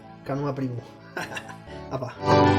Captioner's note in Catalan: Riu